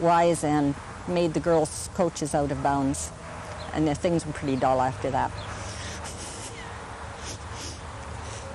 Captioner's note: laughs